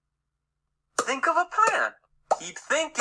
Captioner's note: bubbles popping